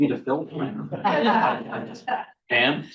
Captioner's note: all chuckling